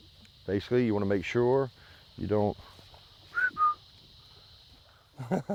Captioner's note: whistling